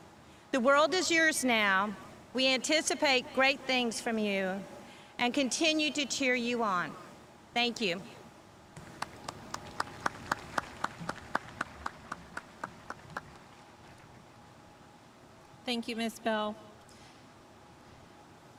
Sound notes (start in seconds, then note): 8.8 audience clapping